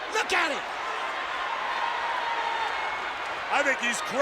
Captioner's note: audience cheers